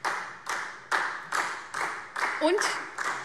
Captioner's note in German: Beifall SPD